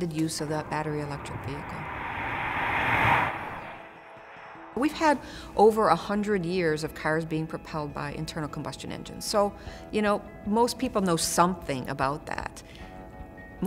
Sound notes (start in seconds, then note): 2.4 sound of car driving past